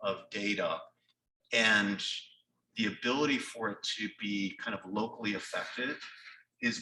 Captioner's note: none